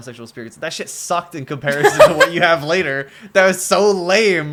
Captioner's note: laughter